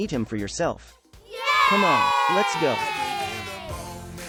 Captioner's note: kids cheer